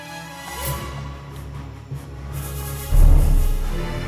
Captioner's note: figurine thud